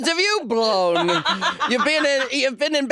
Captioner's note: laughing